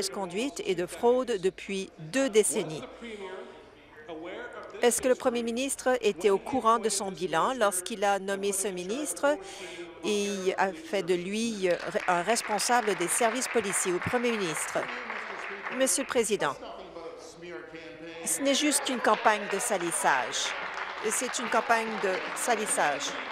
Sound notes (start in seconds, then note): 14.7 applause